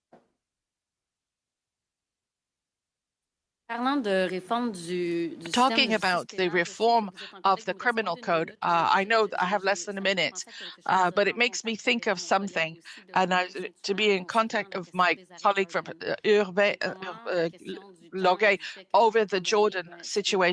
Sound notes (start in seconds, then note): 9.4 speaking French